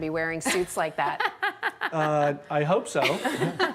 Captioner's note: laughing